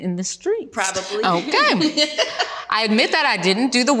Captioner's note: laughs